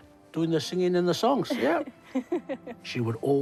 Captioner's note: chuckles